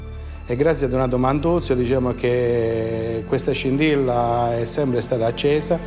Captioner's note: gentle music continues; speaks in foreign language